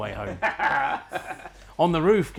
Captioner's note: laughing